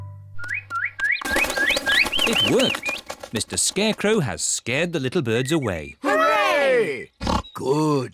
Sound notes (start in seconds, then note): 1.7 all tweeting